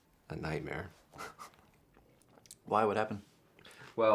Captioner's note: laughs